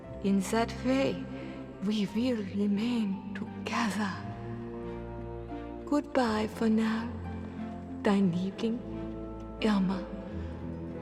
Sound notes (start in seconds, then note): 7.5 speaks foreign language